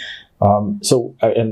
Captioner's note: chuckles